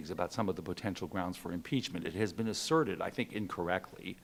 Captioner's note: none